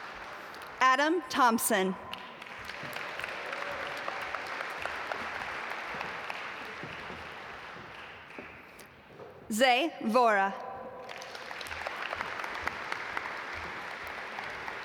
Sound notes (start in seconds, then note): 2.1 audience applaud; 11.0 audience applaud